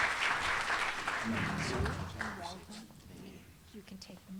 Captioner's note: applause